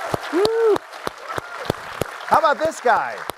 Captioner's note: applause